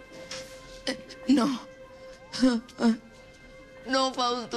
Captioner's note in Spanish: Sollozos